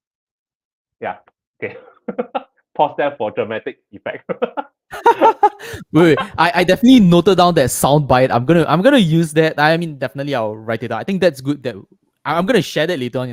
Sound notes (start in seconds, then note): 1.6 laughs; 4.9 laughter